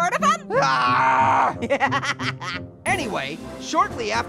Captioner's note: laughs; groans